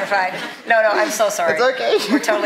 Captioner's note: laughing